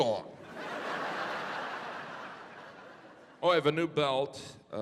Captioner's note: audience laughing